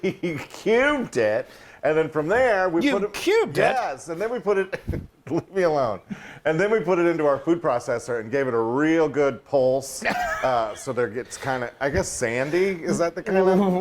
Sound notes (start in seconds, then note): 10.0 laughing